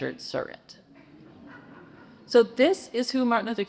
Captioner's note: congregation chuckles